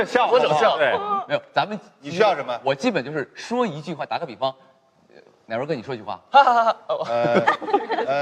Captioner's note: laugh track sound